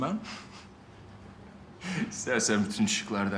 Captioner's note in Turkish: Gülme sesi